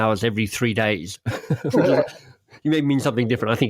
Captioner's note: laughing